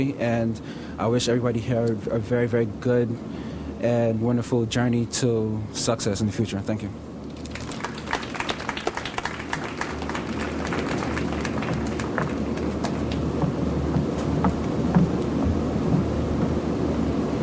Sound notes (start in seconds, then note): 7.2 audience applauds